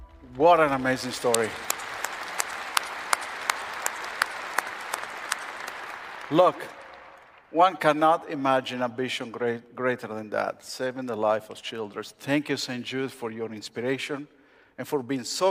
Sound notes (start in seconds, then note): 0.0 applause